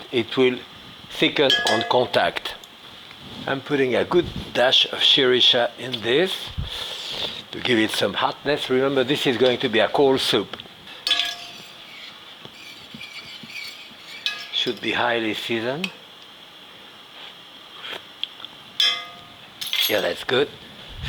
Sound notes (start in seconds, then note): 1.5 utensil tapping; 11.0 utensil scraping; 17.5 sips